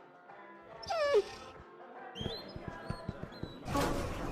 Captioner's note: Ruby Whining